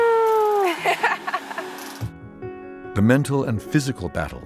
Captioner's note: laughs